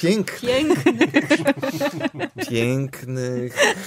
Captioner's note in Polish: śmiech